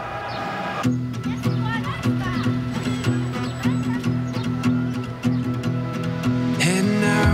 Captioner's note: gentle guitar music; people chattering